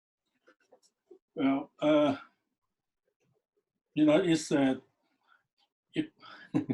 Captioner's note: laughs